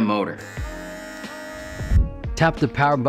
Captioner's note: trimmer whirring